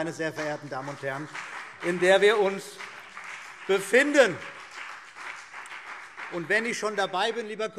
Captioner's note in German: Beifall CDU und BÜNDNIS 90/DIE GRÜNEN